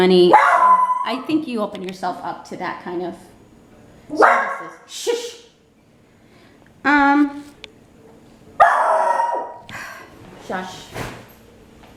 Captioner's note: dog barking